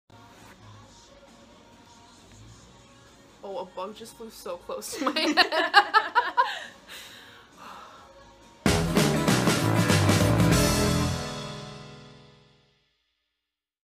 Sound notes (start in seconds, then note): 0.2 soft pop music; 4.9 laugh; 8.6 upbeat jazzy tune